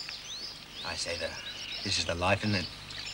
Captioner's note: none